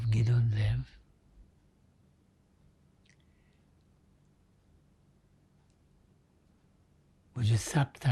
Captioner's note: pauses 6 seconds